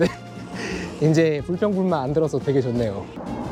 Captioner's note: haha